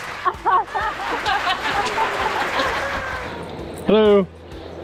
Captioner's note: audience applauding